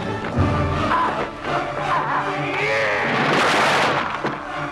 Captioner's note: raider laughing